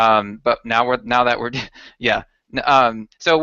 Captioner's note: chuckles